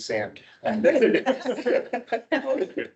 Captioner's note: all laughing